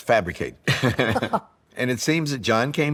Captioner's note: laughter